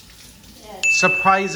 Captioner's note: water flowing; ding